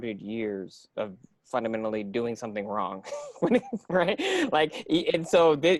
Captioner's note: laughing